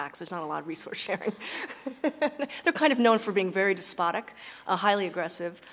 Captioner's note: laugh